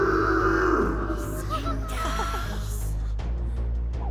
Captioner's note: growling; amused gasp